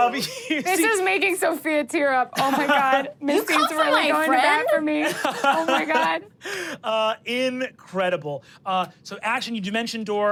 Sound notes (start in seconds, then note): 5.0 everyone laughs